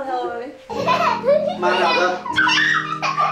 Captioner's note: delighted laughter